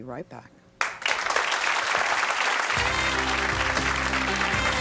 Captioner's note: audience applauds